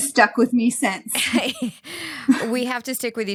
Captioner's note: chuckles